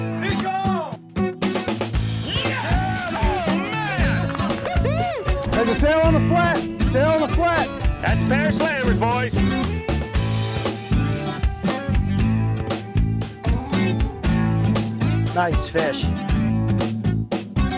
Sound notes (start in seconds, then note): 4.1 cheering